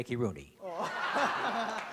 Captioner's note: laughter